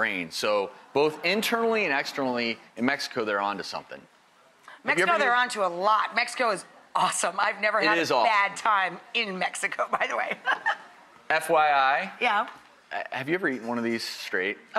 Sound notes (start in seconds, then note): 10.0 laughs